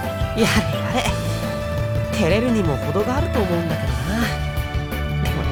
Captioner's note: amused sigh